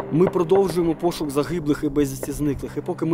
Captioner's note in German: Entfernte Schüsse